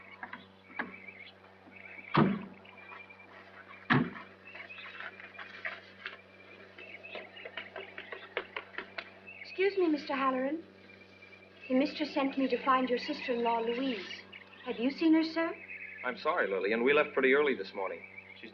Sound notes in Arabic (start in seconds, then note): 5.0 خطى